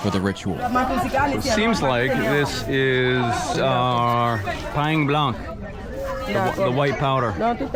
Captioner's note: speaking in foreign language